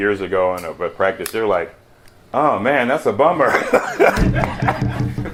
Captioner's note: laughs